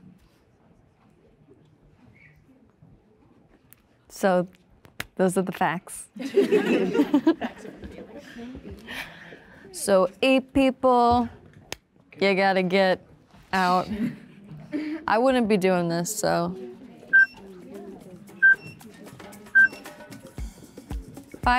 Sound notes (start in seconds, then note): 6.2 women laughing; 17.4 timer beeping; 20.0 light music